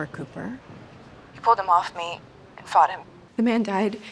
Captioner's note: on phone